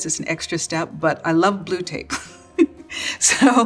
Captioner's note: laughs